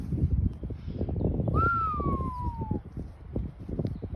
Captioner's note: whistling an awe